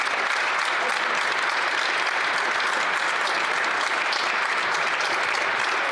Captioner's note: applause